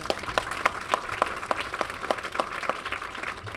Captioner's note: applause